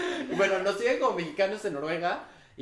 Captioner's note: laughs